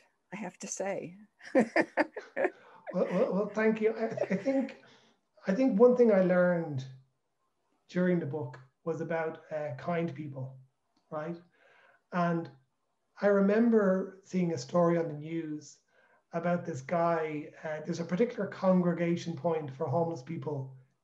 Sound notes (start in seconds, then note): 2.8 chuckles